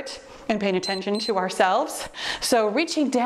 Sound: timer beeps

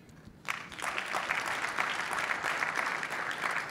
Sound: clapping

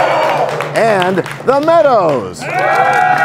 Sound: cheers and applause

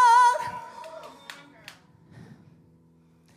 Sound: scattered Applause

